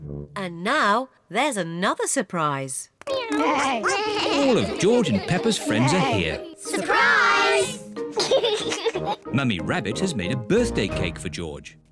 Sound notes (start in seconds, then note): 3.2 all making animal sounds; 8.1 laughs